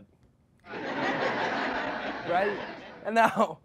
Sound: crowd laughing

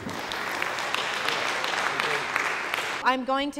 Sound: applause

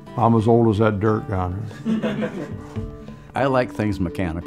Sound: laughs

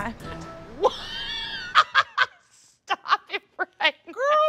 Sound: laughs

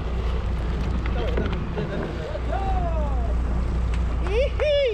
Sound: boat engine running; clapping

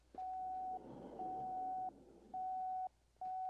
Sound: beeping Continues

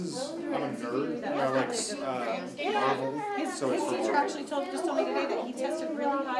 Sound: overlapping chatter continues

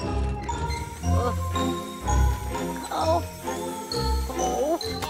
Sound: suspenseful music; Cosmo groaning

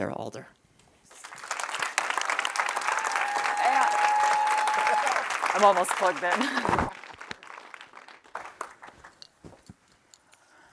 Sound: applause

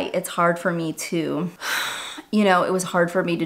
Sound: sighs

